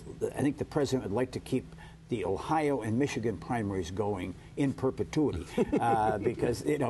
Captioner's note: laughter